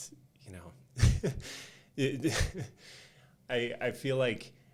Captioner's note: chuckling